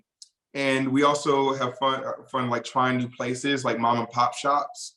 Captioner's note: none